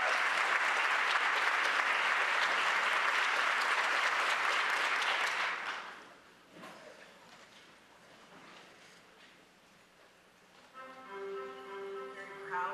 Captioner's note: applause